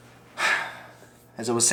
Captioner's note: sighs